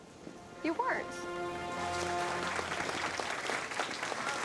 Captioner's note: applause